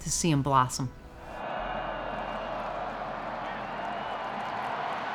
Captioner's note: crowd cheering